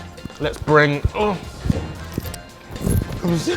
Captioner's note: grunts